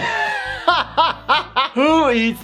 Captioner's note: laughing